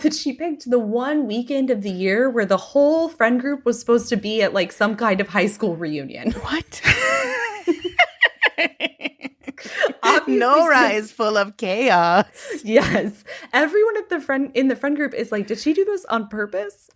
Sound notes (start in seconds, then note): 6.3 laughing